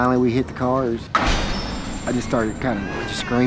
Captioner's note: cars clunk